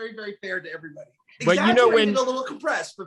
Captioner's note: laughs